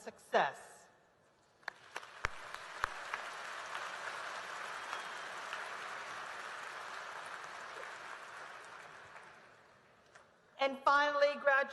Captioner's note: applause